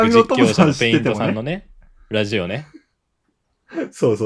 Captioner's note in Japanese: 笑い; 笑い